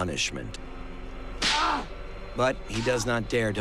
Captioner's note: Marra squalls in pain